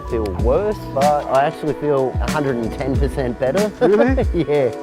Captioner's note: laughing